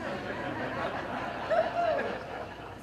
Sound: laughter

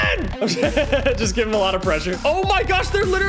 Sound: laughs

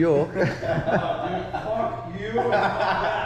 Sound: all laugh

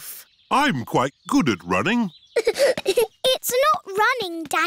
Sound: giggling

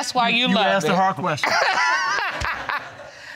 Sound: laughing

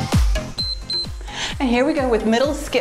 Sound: timer beeps

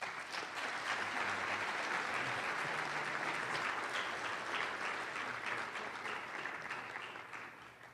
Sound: applause

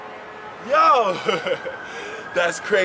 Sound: laughs

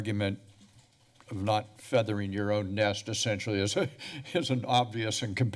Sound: chuckles

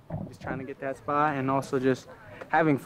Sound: players laughing

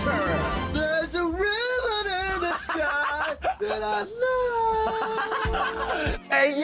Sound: laugh

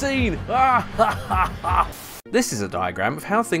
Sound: maniacal laughter

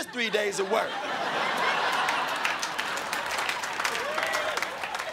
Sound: crowd laughing

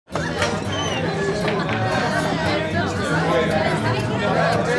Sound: chatter

